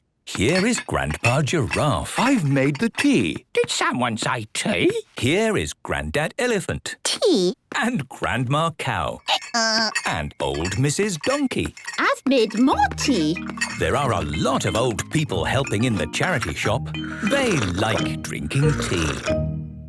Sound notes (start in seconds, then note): 9.2 braying